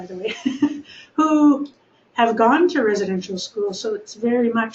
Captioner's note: chuckling